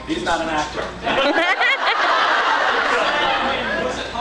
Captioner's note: laughs